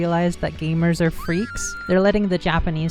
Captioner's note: woman screaming